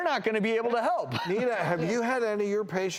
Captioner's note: laughs